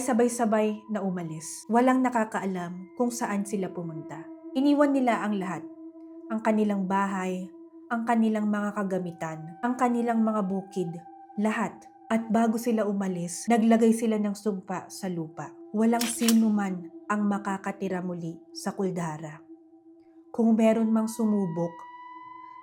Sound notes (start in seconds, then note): 16.0 camera shutter sound